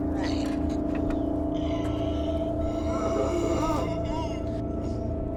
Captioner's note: Dom's raspy breathing